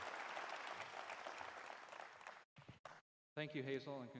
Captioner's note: cheers and applause